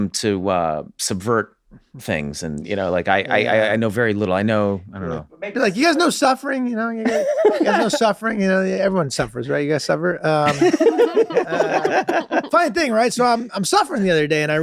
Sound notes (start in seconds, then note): 10.4 everyone laughs